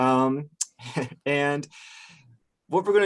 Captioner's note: laughs